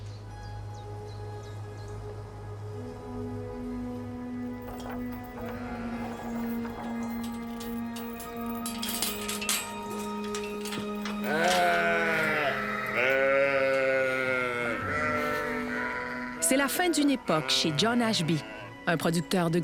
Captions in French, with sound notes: (gazouillis) (bêlements) C'est la fin d'une époque chez John Ashby, un producteur de grandes cultures, mais aussi